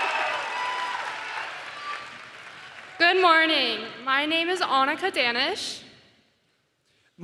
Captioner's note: cheering and applause